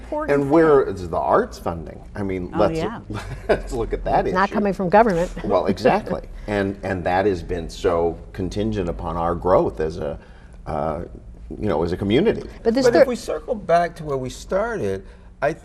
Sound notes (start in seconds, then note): 3.0 chuckles